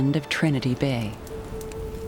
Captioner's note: fires crackles